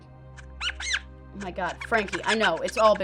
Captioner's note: squeaking